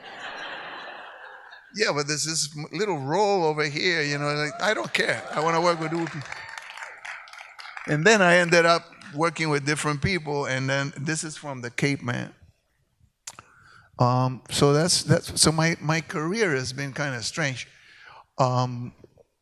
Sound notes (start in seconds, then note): 0.0 audience laughs; 4.2 audience cheers and claps